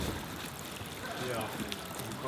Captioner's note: group talking together